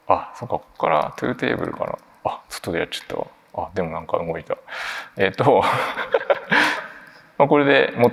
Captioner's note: chuckles